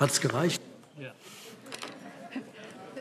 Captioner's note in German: Heiterkeit